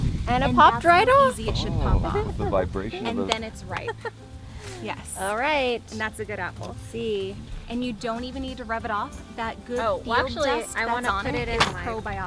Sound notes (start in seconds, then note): 1.0 murmurs